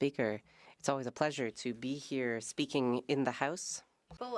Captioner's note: speaking French